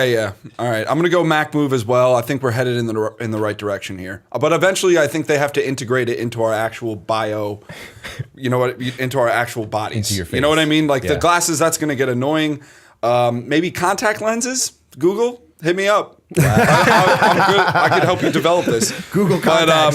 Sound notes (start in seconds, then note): 7.7 chuckle; 16.3 laughter